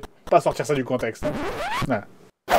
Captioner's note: scrached disk